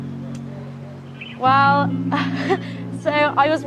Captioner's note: laughter